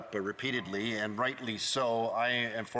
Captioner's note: speaking French